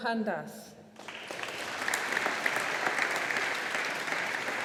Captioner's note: audience applauding